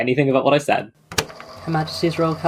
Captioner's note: tape recorder clicks on